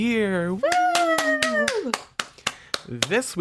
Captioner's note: clapping